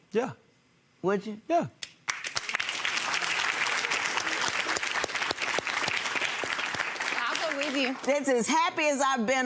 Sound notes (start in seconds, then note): 2.0 audience applauding